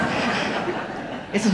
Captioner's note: audience laughing